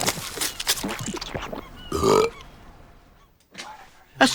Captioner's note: burping